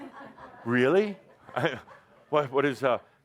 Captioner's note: laughter